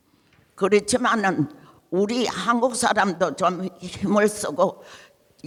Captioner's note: speaking in foreign language